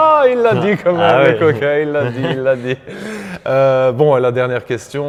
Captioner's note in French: rires